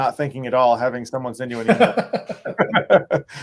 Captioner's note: laughs